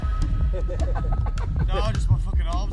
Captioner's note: laughter